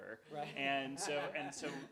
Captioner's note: laughs